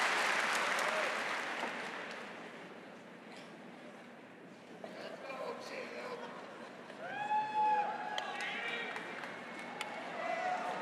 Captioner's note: applause